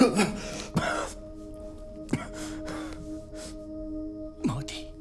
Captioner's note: coughing